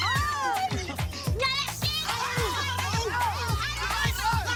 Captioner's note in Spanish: Grito; Gritos